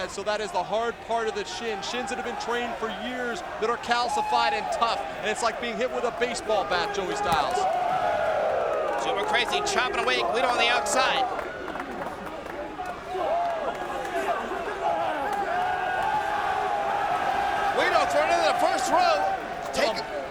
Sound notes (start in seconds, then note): 12.8 audience cheering